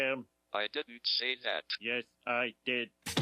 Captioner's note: electronic Voice